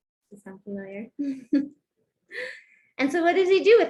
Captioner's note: laughter